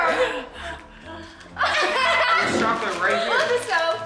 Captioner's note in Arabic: ضحك